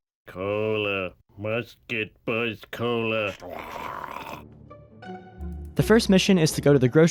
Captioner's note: drools